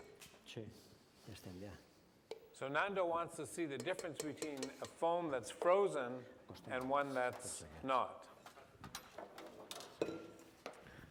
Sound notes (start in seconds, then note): none